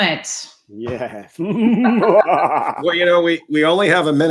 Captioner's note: laughter